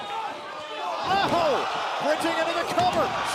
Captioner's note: crowd cheering